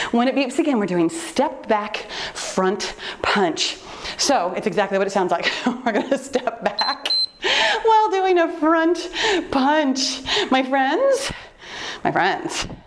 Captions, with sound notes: when it beeps again, we're doing step back, front punch. So it's exactly what it sounds like. We're gonna step back (laughs) (timer beeps) while doing a front punch, my friends, my friends,